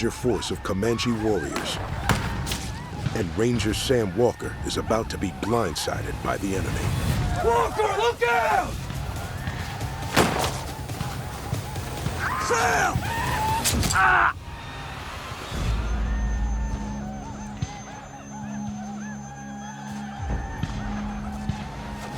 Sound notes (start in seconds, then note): 10.1 gunshot; 13.3 grunt